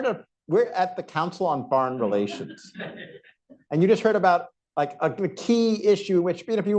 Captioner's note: laughter